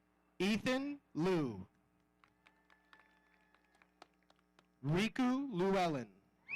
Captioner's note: audience applauding